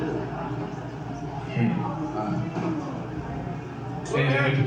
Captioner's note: awkward chattering